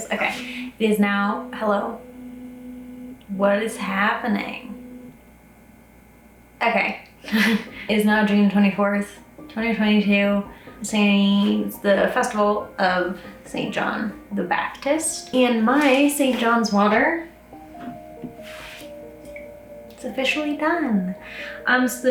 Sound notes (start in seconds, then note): 4.9 camera lens whirring; 7.3 laughs; 18.0 cheerful music